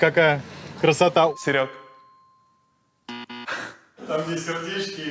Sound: wrong answer buzzer

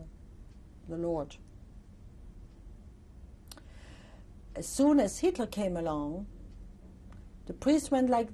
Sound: pauses for 3 seconds

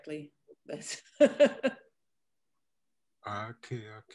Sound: laughs

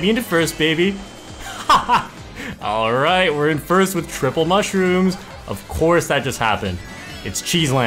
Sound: laughs

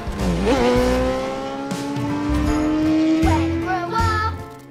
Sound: bike roars away

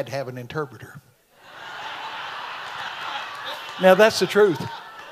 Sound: audience laughs

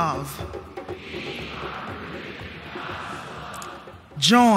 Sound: audience repeats

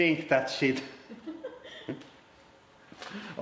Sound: giggling

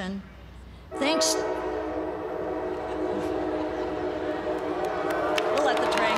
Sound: train whistle blowing, laughter

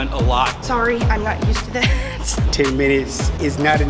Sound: laughs

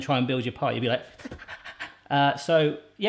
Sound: gasping

